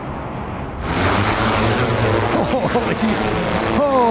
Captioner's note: drone propellers whirring